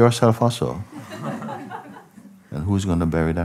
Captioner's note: Lachen